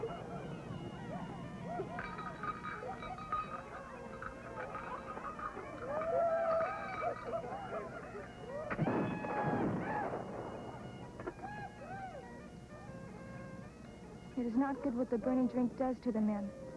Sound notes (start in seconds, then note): 8.7 gunshot